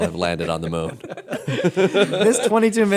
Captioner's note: laughter